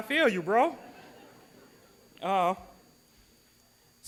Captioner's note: audience laughs